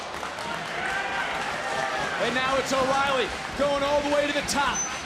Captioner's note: audience cheering